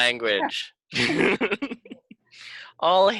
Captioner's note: laughing